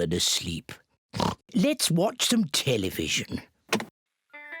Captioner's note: oinks